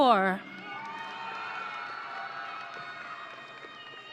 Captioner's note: audience cheering